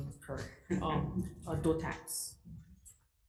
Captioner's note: laughter